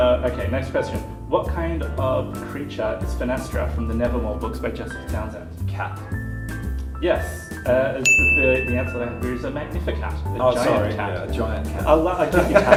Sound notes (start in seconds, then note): 8.0 ding!